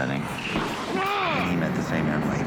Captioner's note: grunting